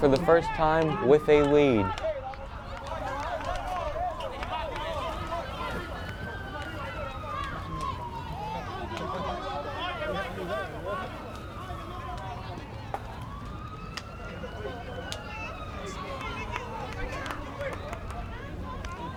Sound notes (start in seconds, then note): 4.3 players talking in foreign language; 7.3 police siren wails